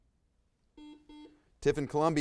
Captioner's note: buzzer buzzes